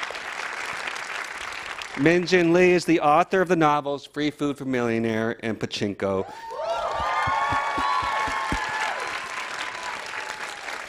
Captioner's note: applause